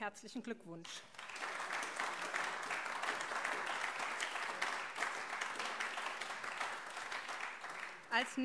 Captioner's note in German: Beifall AfD und vereinzelt CDU